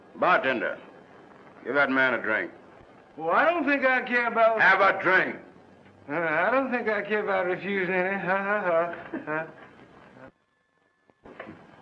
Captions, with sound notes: - Bartender! Give that man a drink. - Oh I don't think- - Have a drink! - I don't think I'd refuse (awkward laughing).